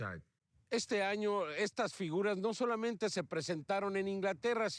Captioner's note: speaking foreign language